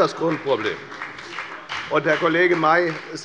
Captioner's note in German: Beifall bei der FDP